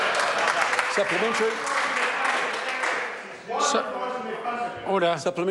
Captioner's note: members applaud